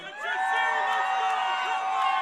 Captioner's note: crowd cheering